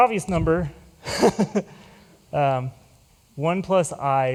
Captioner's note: chuckles